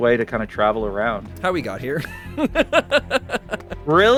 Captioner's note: laughs